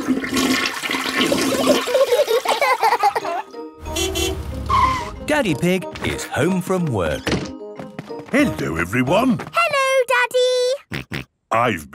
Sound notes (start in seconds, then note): 1.7 laughter; 3.8 honking; 11.0 snorting